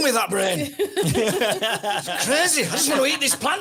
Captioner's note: everyone laughs